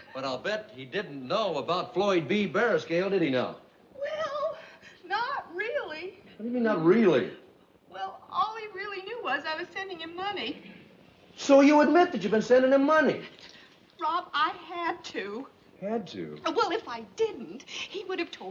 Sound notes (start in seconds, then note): none